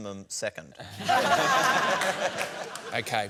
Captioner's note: laughter